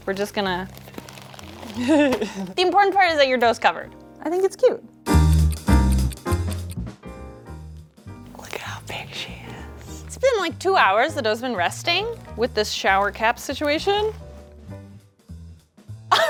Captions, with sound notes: We're just gonna, (soft crackling) the important part is that your dough's covered. I think it's cute. (upbeat jazz music) (clock ticking) Look at how big she is. It's been like two hours. The dough's been resting with this shower cap situation. (upbeat jazz music)